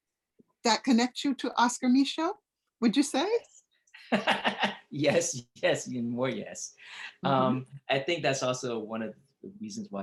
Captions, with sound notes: that connects you to Oscar Micheaux, would you say? (laughs) - Yes, yes, and more yes. I think that's also one of the reasons